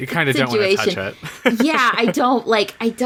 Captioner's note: laughs